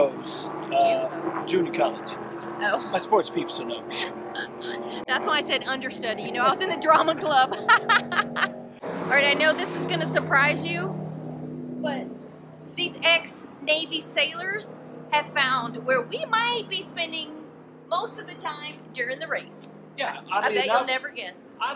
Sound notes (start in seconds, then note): 9.6 laughs